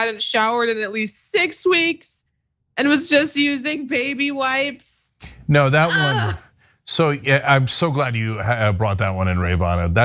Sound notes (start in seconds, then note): 5.3 laugh